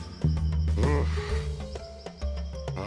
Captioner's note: groans